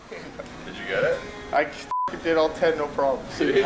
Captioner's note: beep